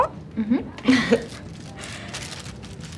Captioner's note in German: Kichern